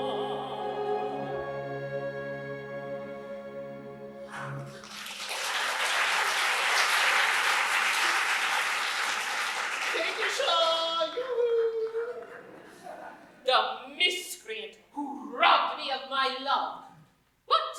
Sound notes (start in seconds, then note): 4.6 applause